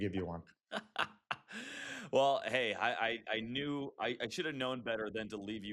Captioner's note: laughs